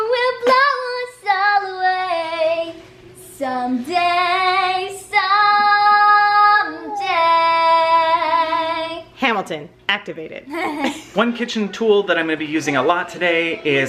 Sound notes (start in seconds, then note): 10.5 laughing